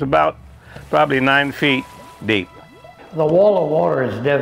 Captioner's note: water gushing